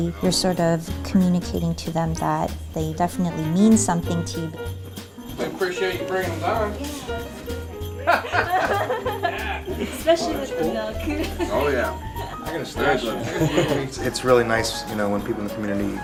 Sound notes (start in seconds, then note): 7.9 men laughing